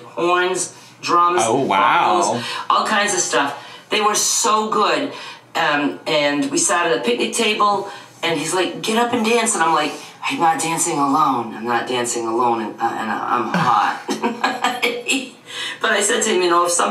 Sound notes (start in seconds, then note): 13.5 laughs